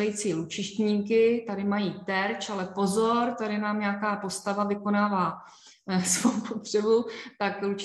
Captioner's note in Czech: smích